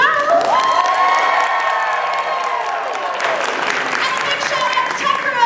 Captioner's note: cheering